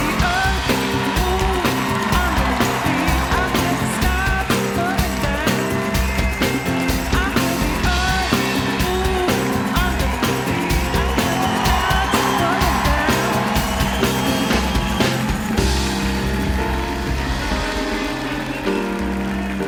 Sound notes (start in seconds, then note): 0.0 band playing; 0.0 cheers and applause; 2.8 band playing; 2.8 cheers and applause